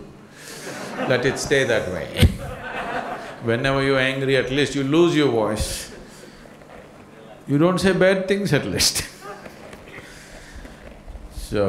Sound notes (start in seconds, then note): 2.2 laughter